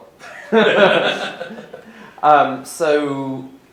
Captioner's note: both laughing